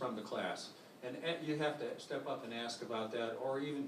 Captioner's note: none